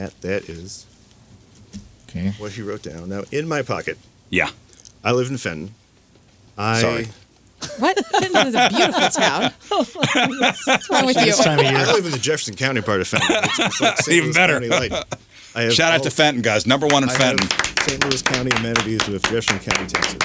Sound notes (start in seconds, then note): 10.8 laughing; 16.8 applauding